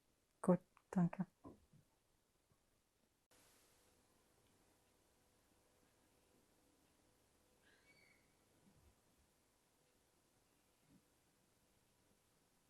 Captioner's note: pauses 22 seconds